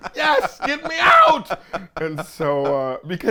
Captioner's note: laughs